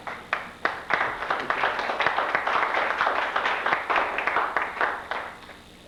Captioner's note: applause